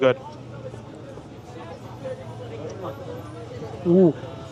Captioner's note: people chattering